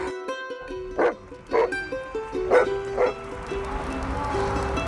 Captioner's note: dog barking